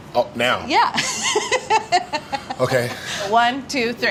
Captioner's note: laughs